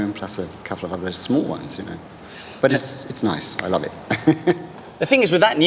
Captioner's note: laughs